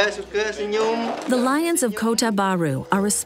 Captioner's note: speaking native language